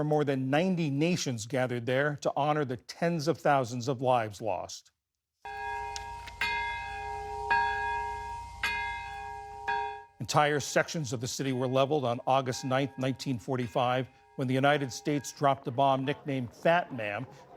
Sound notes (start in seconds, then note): 10.9 bells tolling